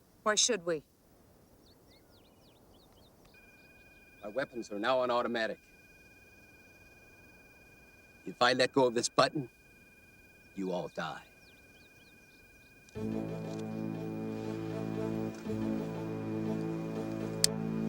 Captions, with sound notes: - Why should we? (alarm beeping) - My weapons are now on automatic. If I let go of this button, you all die. (foreboding music)